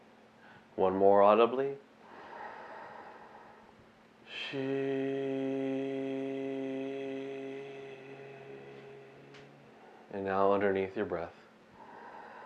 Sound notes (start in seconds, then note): 2.1 inhaling